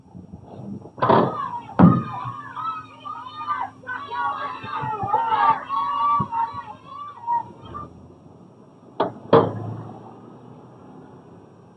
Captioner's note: clamoring